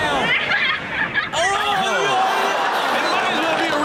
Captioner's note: audience reacts